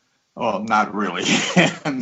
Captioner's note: laughs